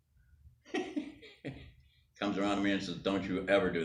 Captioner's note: laughs